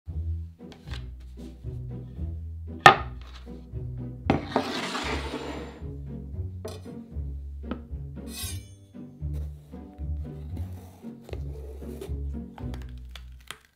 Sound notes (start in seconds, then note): 0.0 quirky music playing in background throughout video; 4.3 bowl sliding